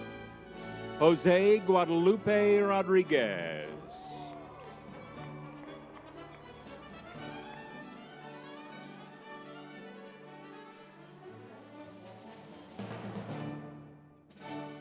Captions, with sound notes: Jose Guadalupe Rodriguez. (crowd cheering) (uplifting music)